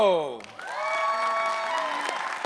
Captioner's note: cheering